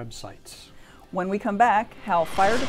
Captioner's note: whooshing